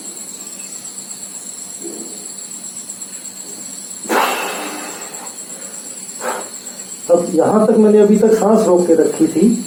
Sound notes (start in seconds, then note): 4.0 release the breath